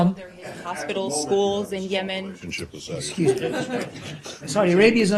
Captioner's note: laughter